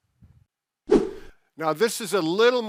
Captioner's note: screen whooshing